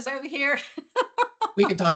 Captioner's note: laughs